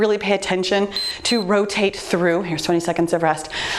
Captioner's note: timer beeps